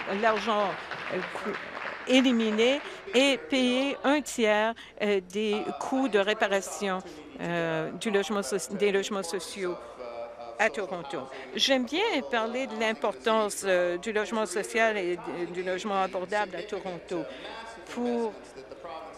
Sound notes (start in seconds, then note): 4.1 applause